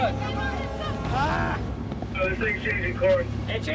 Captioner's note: screaming